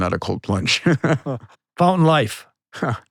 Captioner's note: laughing